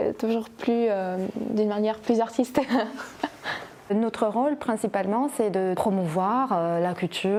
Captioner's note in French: rires